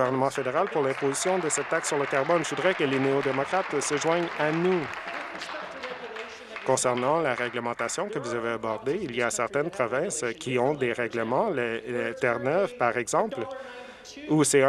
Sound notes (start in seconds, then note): 4.7 applause